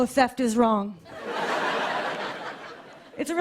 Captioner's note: laughter